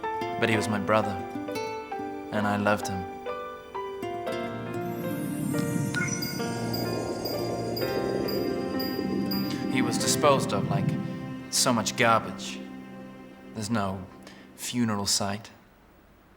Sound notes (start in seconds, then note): 4.8 digital beeping; 5.3 slow soft music